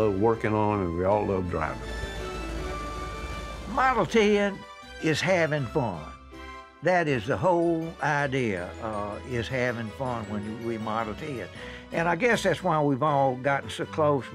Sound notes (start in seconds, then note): 1.6 car engine roaring